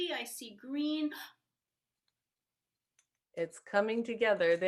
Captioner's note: gasps